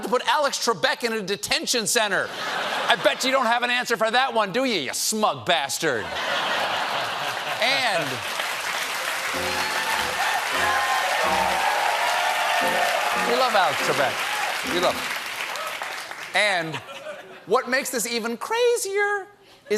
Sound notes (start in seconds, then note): 6.0 laughter; 6.8 applause